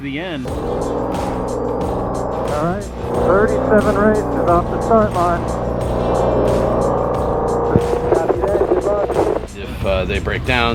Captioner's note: engine Roaring